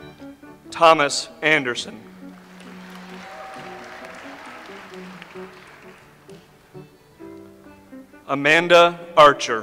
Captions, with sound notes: Thomas Anderson. (audience applauds) Amanda Archer.